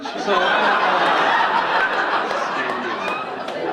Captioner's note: audience laughing